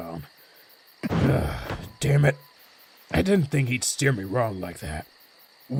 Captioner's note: sighs